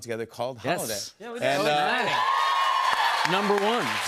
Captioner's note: cheers and applause